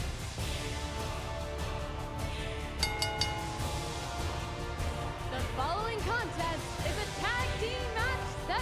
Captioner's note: bell ringing